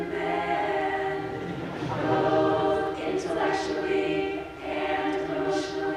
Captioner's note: audience laughs